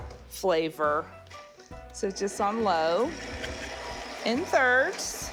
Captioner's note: mixer whirring